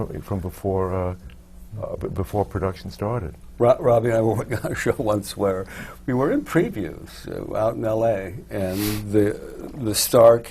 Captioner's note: laughs